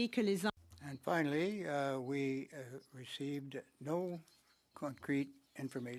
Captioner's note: speaking French